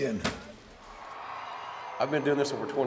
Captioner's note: audience cheering